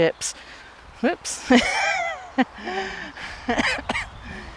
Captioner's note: laughs